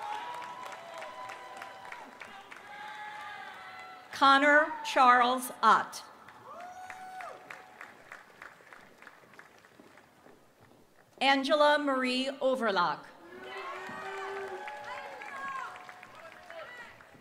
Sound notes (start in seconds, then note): 5.0 applause